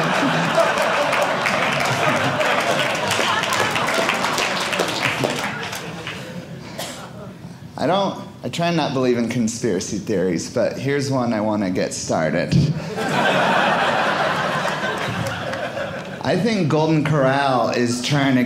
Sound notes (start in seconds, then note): 0.0 audience applauding; 12.8 audience laughing